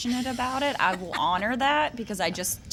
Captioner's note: laughs